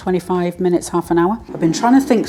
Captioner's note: air fryer hum